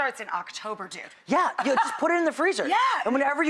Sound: laughs

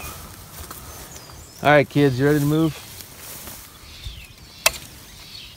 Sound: snap

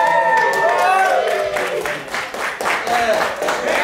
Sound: clapping

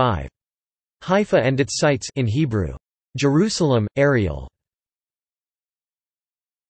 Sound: in Hebrew

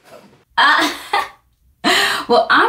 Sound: laughing

